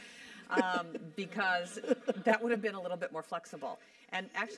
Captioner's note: laugh